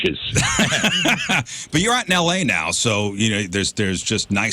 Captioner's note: laugh